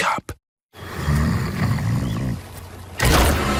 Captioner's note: snoring